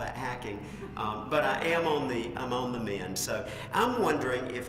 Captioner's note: laugh